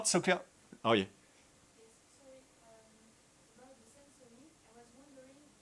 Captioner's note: attendee 6 faintly speaking